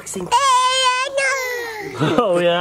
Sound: babbles

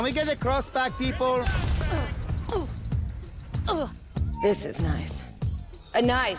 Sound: grunts

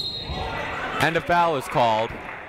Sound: whistle blowing

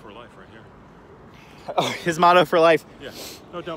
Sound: laughter

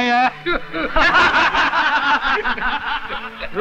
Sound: laughs

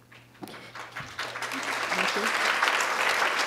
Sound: audience clapping

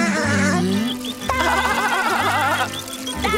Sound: laughing

